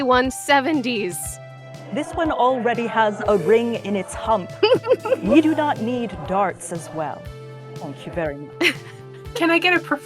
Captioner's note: LEA giggles